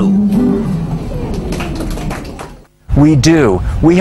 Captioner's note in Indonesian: clapping